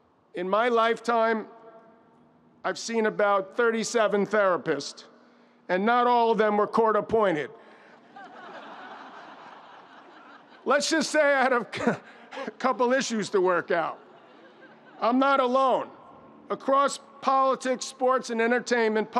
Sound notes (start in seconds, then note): 8.0 audience laughs